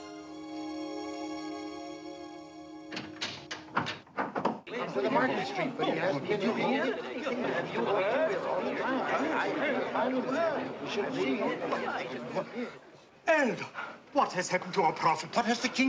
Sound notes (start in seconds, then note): 2.8 door clicking; 6.6 people chattering